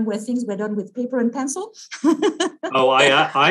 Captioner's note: laughs